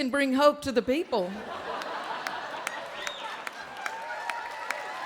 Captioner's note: audience laughing